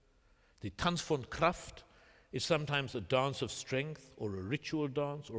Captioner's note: german